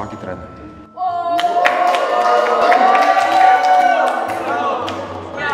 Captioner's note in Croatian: pljeskanje